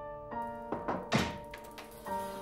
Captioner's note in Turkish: Kapı çalıyor